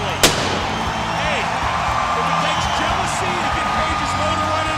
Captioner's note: crowd cheering